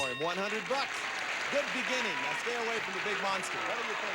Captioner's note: audience applauding